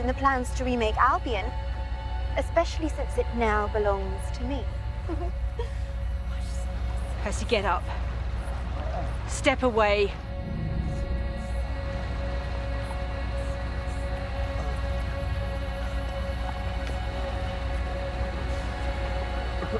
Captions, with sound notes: in the plans to remake Albion, especially since it now belongs to me. (giggles) - Percy, get up. (Percival grunts) Step away. (ominous music)